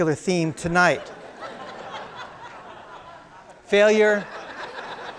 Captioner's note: crowd laughing